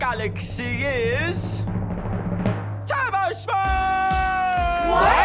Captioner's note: audience cheers, applauds